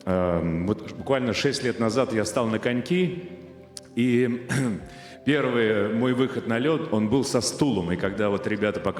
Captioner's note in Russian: откашливается